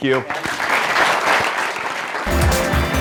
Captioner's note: applause